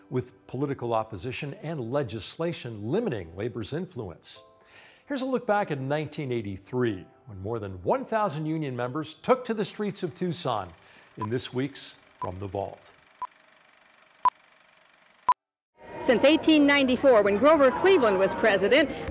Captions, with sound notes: With political opposition and legislation limiting labor's influence. Here's a look back at 1983, when more than one thousand union members took to the streets of Tucson in this week's From the Vault. (beeping) - Since 1894, when Grover Cleveland was president,